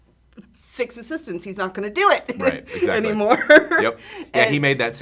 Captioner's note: laughs